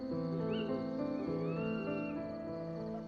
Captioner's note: night birds calling